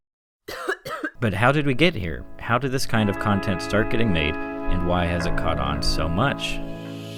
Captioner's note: cough cough